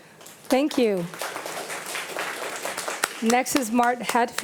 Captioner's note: audience applauding